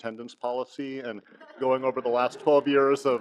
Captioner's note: audience laughs